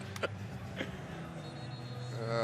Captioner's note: laughter